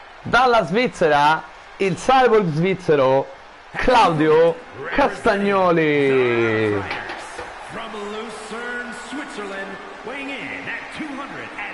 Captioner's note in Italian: Applauso